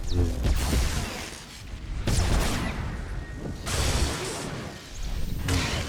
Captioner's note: gunshots